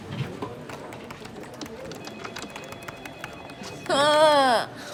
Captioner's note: keyboard keys clacking